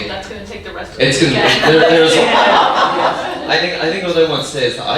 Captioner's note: audience laughing